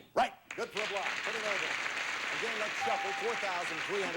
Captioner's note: audience applauding